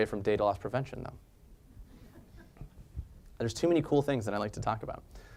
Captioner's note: laugh